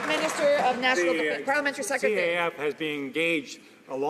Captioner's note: some Applause